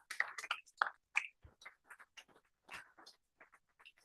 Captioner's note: applause